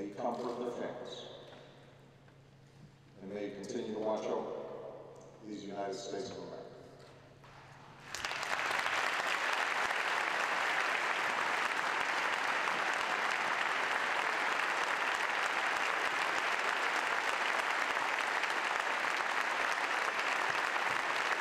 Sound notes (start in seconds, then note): 10.9 applause